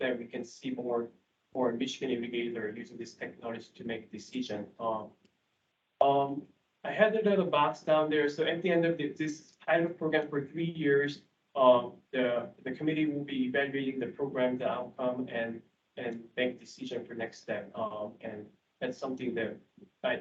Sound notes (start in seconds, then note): none